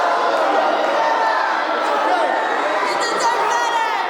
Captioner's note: applause